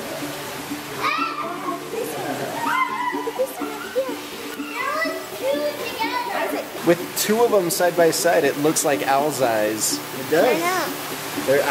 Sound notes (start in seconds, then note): 1.0 children laugh